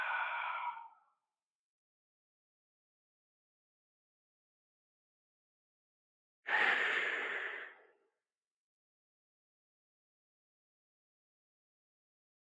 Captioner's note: breath